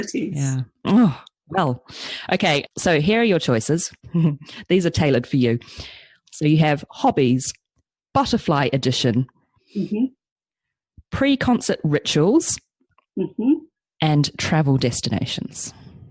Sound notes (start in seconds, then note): 3.8 giggles smugly